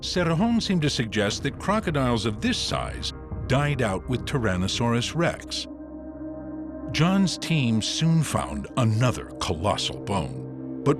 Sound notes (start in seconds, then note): none